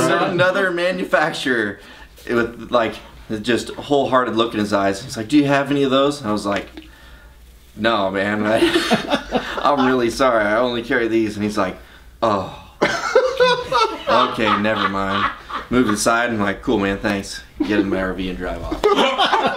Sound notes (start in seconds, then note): 12.8 laughs loudly